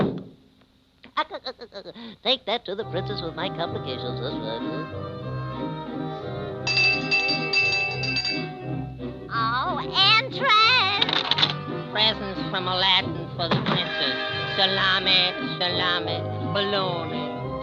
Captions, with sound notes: (balloon popping) (Popeye laughing) - Take that to the princess with my complications, that's right. (bell ringing) - Oh, entrer. - Presents from Aladdin for the princess. Salami, salami, bologna.